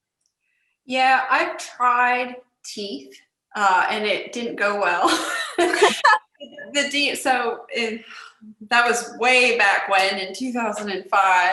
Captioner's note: laughter